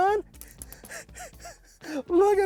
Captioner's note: laughs